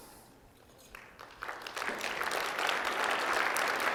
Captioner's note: applause